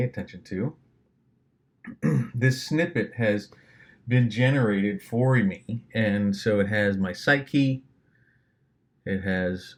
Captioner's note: clears throat